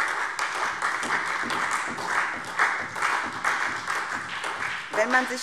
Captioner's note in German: Beifall SPD